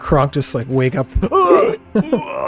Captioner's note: groaning